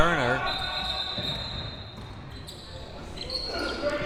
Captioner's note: whistle